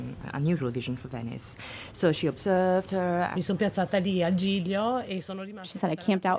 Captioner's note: speaks in Italian